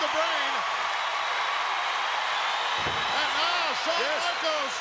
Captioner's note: audience cheering